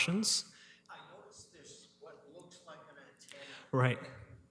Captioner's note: mic off